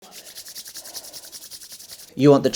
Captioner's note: hands rustling